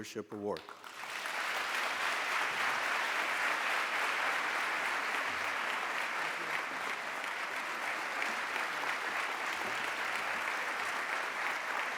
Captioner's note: applause